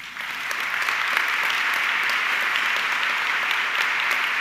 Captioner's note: audience clapping